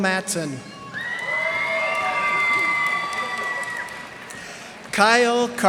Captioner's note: cheers and applause